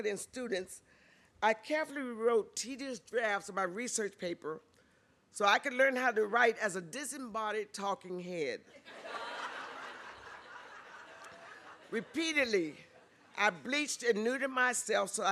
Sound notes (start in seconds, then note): 8.7 laughter